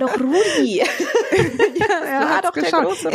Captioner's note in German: Sie lachen